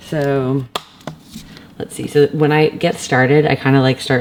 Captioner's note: none